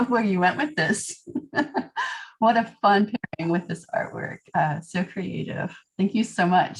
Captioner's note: laughter